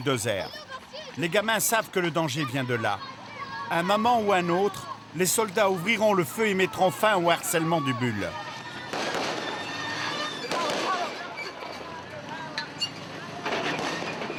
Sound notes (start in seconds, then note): 1.9 French spoken audio